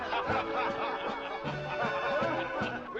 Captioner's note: men laughing